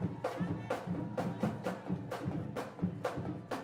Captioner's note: none